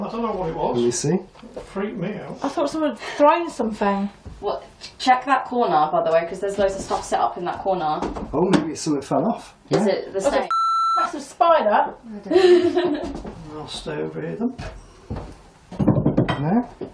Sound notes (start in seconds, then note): 10.5 beep; 12.3 laughing